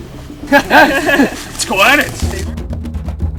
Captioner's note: laughing